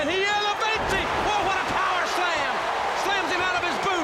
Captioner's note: crowd cheers